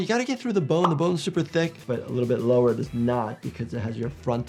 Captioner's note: none